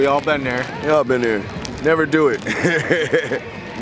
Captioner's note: laughing